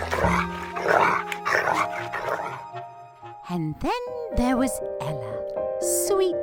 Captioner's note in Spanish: gruñidos